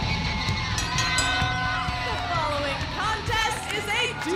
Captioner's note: bell ringing